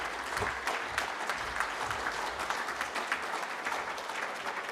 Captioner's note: applause